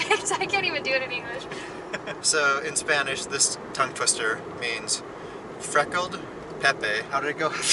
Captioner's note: laughter